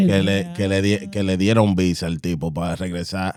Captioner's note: speaking In Foreign Language